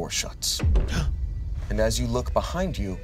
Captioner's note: gasps